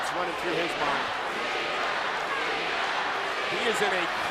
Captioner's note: crowd cheering